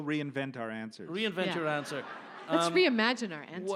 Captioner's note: audience laughs